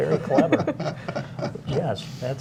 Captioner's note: laughter